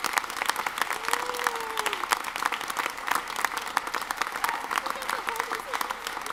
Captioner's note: audience chattering and murmuring